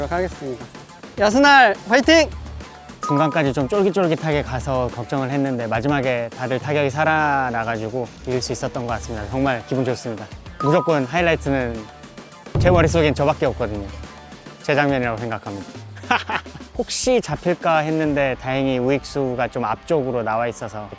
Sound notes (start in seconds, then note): 16.2 laughs